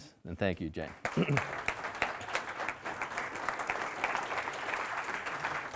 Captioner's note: audience applauding